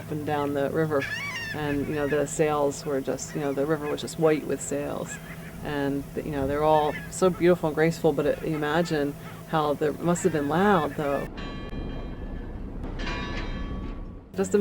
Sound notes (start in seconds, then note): 5.1 seagulls calling throughout narration; 12.9 bell ringing